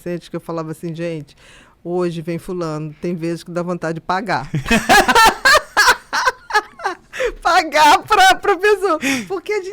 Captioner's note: laughs